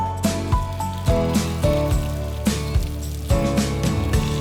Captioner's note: water running